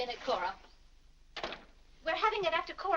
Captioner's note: door closes